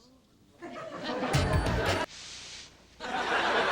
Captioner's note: audience laughing